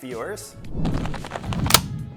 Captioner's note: whooshing sound; camera shutters and snaps